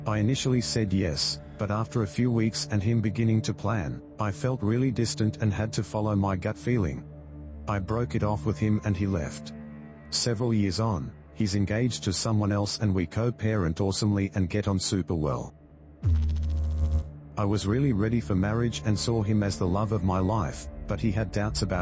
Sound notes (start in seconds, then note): 16.0 electrical noise